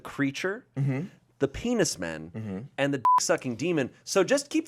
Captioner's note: beep